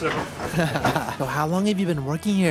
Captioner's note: laugh